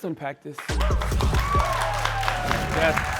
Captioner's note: cheering and applause